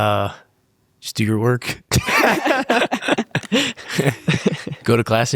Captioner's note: everyone laughs happily